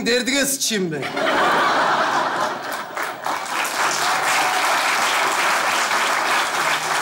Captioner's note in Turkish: Kahkaha ve alkış sesleri